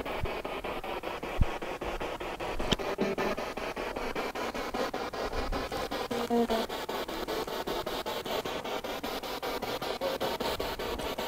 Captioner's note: noise of the spiritbox in the background